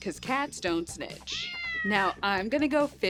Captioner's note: cat meowing